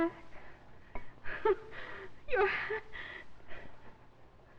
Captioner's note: laughing